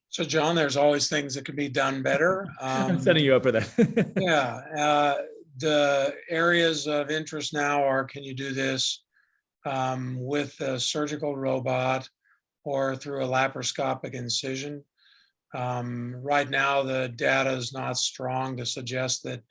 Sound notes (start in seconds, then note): 2.1 laughing